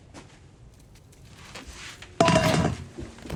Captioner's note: trash rustling